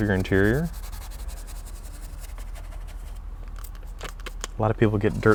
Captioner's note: brush scrubbing